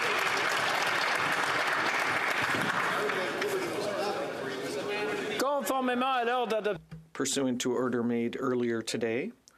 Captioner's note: applause